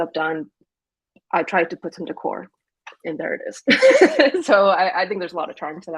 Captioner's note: laughs